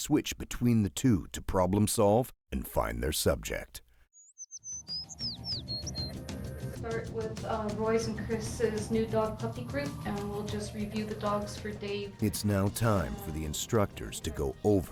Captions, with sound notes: - [Voiceover] Although air scenting and tracking skills are taught separately on this orientation course, in a real life situation, experienced SAR dogs will commonly switch between the two to problem solve and find their subject.